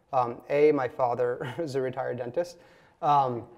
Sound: chuckles

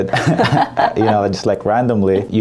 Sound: laughing

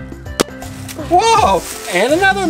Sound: balloon pops

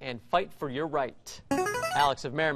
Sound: buzzer plays

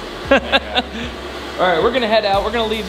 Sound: laughs

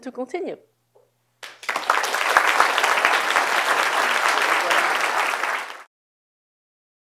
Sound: applause

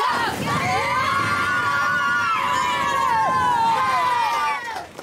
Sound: cheering

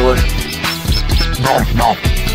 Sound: speaks peep peep peep

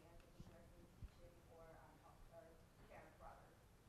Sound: speaking quietly

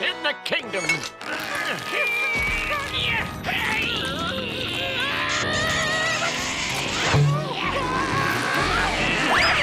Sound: groaning

